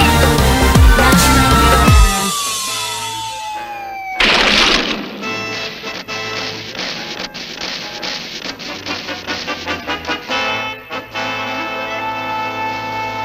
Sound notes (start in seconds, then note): 0.2 car Falls; 4.1 car gets Crashed & Damaged